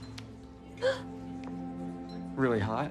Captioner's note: gasps